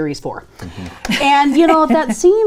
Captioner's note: laughing